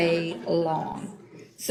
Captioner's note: laughs